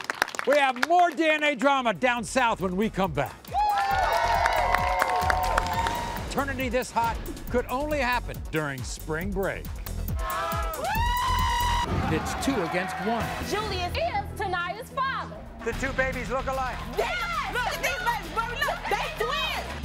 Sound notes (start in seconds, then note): 0.0 audience claps; 3.5 audience cheers